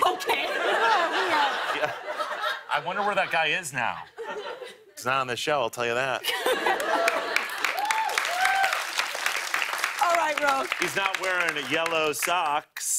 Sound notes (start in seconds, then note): 6.6 cheers and applause